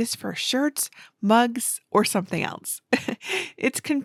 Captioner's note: chuckles